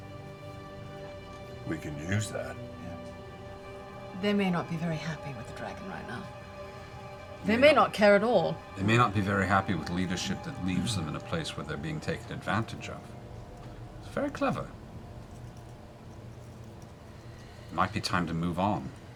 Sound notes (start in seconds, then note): none